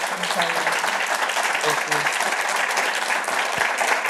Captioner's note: applause